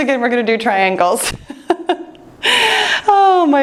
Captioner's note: laughing